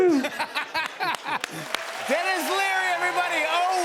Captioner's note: laughs